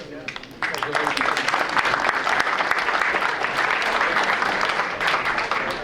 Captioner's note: audience applauding